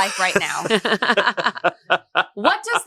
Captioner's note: laugh